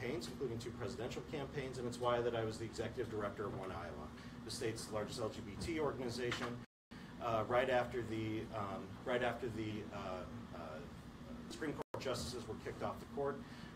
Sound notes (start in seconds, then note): none